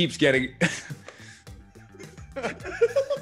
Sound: laugh

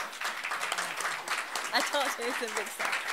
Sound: applause

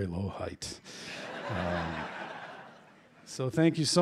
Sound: laughter

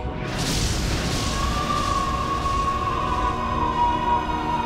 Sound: screaming

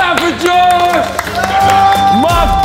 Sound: group applauds; upbeat music fades in

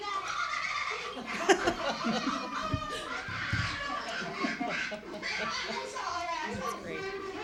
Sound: laughter

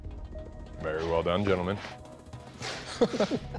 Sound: laughter

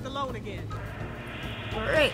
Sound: robotic static

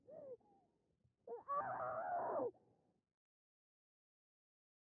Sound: muffled scream

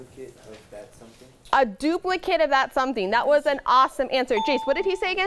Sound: ding

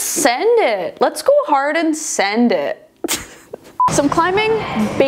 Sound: laughs

